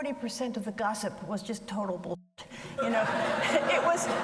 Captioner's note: audience laughs